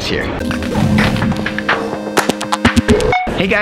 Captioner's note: robotic bleeping